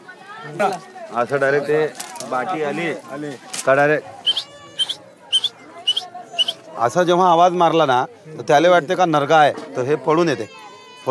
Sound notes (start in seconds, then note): 3.5 whistles